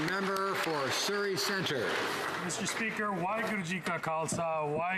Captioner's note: some Applause